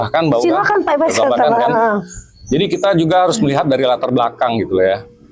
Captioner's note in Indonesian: tertawa